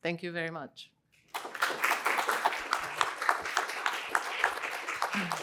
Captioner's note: applause